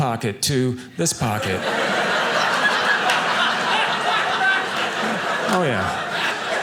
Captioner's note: audience laughing